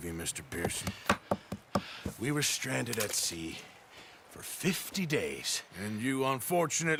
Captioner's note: cutting food on a board